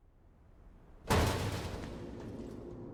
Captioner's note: metallic clanging